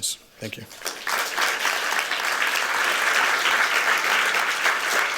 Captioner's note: applause